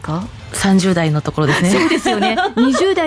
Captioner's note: laughs